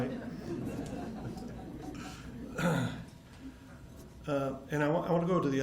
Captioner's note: attendees laughing